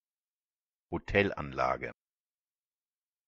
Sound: fast Pronunciation

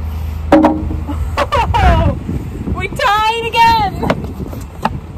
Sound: laughing

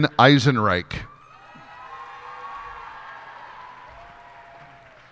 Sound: cheers and applause

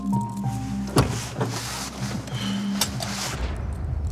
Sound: rustling

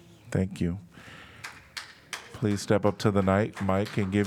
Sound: applause

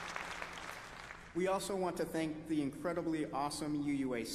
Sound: applause

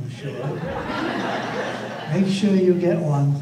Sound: audience laughter

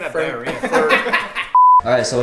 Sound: laughing

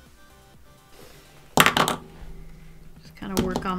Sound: pencil smacks on desk

